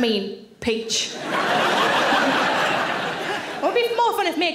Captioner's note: audience laughing